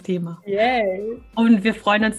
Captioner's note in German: lachen